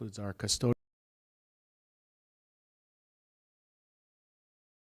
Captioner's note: audio cut out